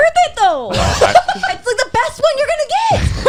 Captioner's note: laughing